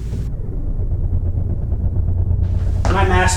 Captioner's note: ship hum